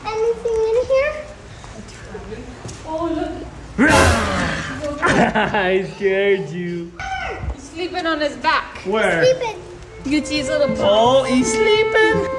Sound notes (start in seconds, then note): 3.8 dad growls; 4.9 dad laughing